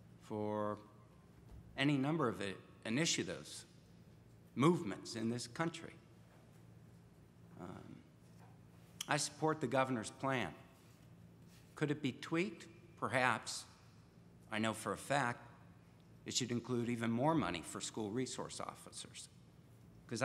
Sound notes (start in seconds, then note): none